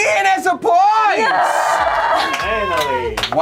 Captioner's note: group cheers; groans